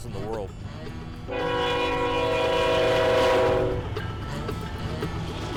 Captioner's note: train whistle